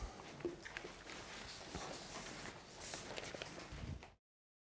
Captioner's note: papers rustling